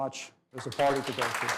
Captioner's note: applause